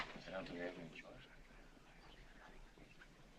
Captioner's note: whispering